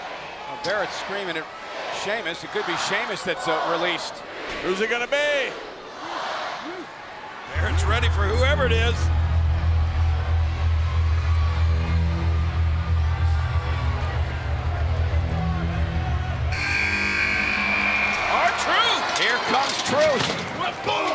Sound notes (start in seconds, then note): 9.9 tense music; 16.5 buzzer sounding